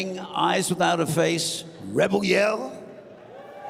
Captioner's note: cheers and applause